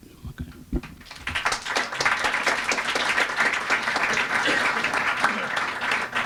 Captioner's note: applause